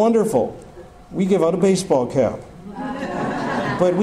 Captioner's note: audience laughter